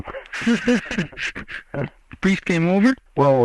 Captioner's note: both laugh